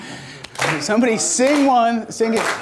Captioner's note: laughs